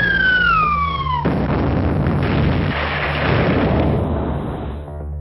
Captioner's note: explosion